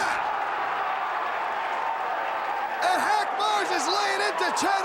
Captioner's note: crowd cheering